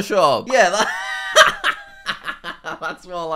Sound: laughing

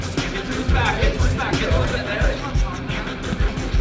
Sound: chattering

